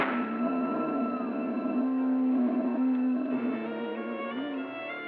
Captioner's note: gun firing; growling; dramatic music